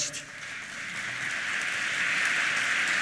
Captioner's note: applause